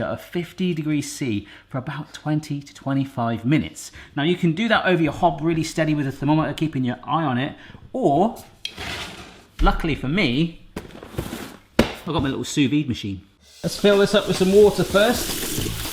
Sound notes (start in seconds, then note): 8.8 shuffling; 10.8 shuffling